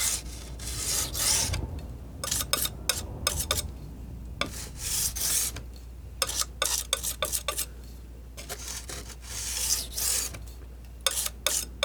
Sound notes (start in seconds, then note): 0.0 metal scraping